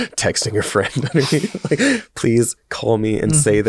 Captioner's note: chuckles